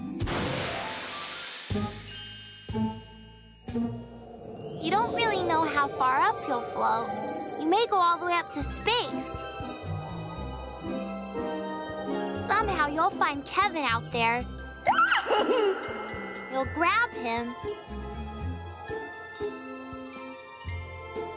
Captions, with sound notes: You don't really know how far up you'll float. You may go all the way up to space. Somehow you'll find Kevin out there. [chuckle] You'll grab him.